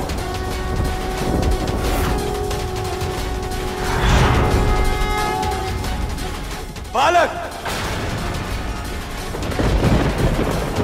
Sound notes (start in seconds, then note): 4.0 conch blows